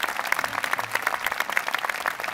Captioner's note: applause